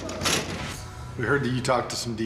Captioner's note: door slamming